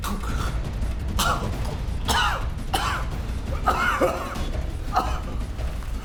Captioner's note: coughing & gurgling